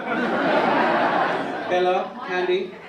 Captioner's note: audience laugh